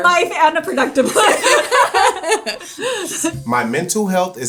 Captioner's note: both laughing